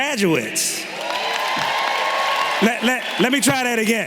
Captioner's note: everyone cheering and clapping